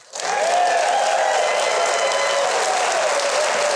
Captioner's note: audience cheers